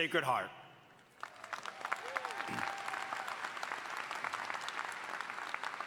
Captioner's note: audience applauding